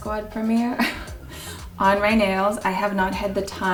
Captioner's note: laughs